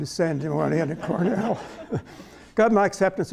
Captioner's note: laughter